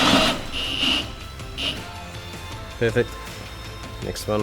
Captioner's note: drill starts